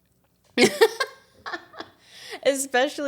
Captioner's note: laughs